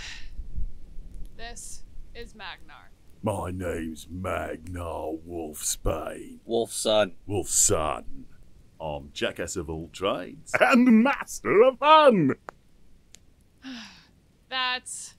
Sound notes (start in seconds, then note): 0.0 sigh; 8.5 changing voice; 13.6 sighs